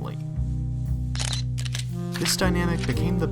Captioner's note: camera shutter